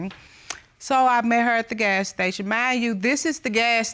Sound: smacks lips

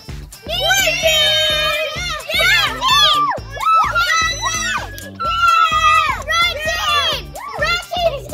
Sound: yelling and cheering

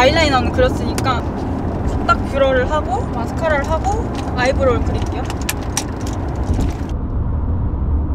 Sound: car rattling again as starts to do her makeup again

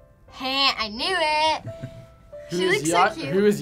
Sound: laughs

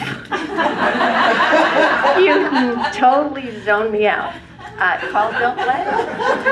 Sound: laugh

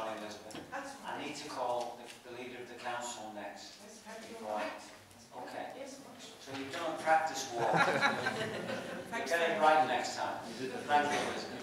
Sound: laughter

